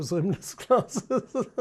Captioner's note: laughs